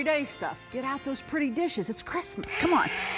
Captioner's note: blender whirrs; blender whirring stops